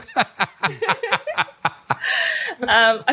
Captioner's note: laughter